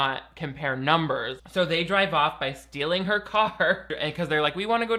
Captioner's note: laughs